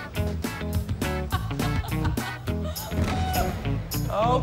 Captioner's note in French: en riant